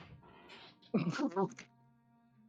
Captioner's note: laughs